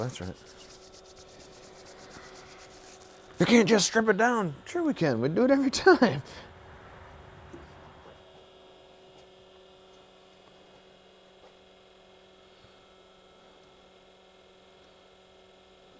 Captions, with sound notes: - Oh, that's right. You can't just strip it down. Sure, we can. We do it every time. (machine hums)